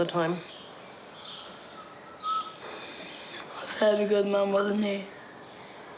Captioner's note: wheezes